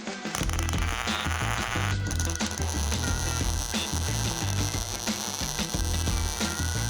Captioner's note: funky blues music; tool crackling